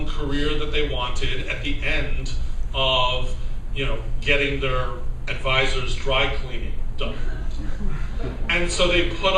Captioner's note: laughter